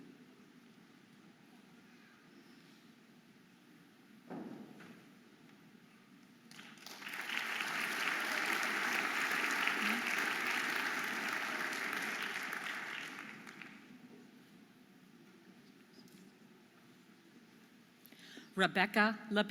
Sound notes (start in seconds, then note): 6.5 audience applauding and cheering